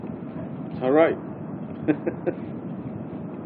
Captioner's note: gülüyor